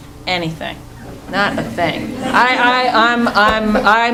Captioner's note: laughing